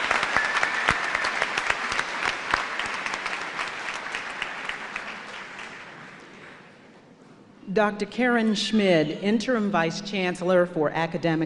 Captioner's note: cheers and applause